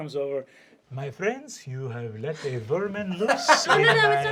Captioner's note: exotic accent